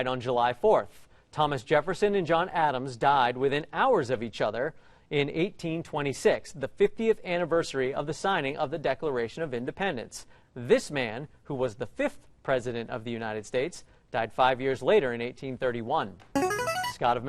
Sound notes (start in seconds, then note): 16.3 ringer